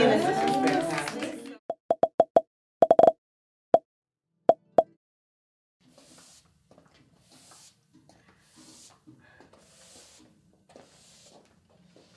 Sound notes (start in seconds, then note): 1.9 quiet popping; 6.5 quiet sweeping